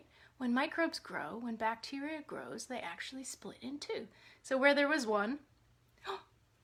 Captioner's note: gasp